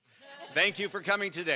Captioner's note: audience laughs